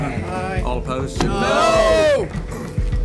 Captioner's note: yelling